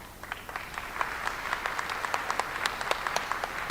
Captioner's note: applause